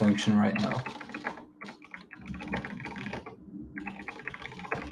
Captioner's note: keyboard clacking